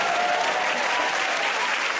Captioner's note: cheers and applause